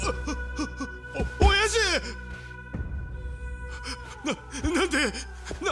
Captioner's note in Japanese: 笑い